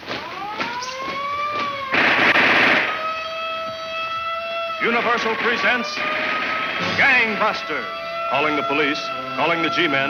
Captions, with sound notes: (siren blares) (gun fires) - Universal presents Gang Busters. Calling the police, calling the G-Men,